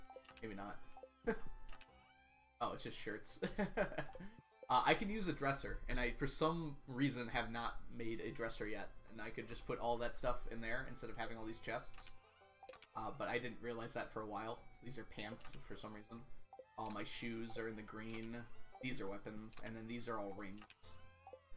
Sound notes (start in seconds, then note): 4.0 laughs